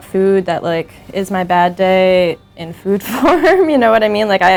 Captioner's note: laughs